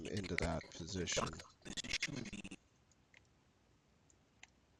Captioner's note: audio skipping